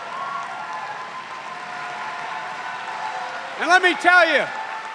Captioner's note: cheers and applause